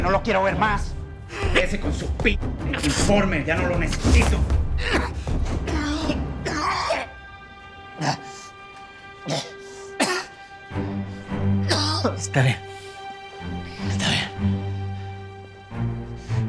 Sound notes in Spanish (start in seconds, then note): 3.9 Tosidos